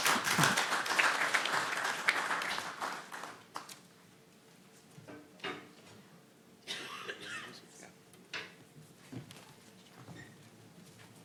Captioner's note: applause